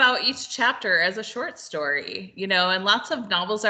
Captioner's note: none